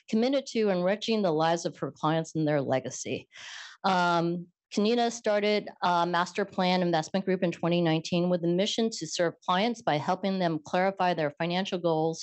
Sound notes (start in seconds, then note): none